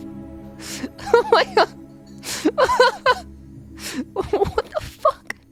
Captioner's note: laughs way too much